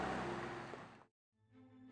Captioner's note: engine rumbling